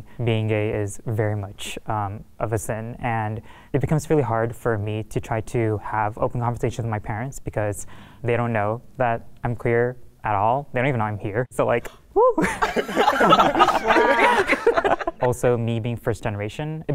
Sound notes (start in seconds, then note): 12.3 participants laughing